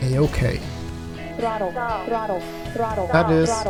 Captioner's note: alarms blare in the cockpit as the plane suddenly stalls